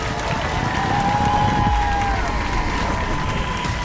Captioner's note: cheers and applause